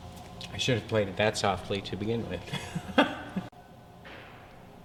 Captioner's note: laughing